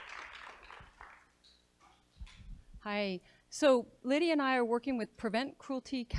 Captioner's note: applause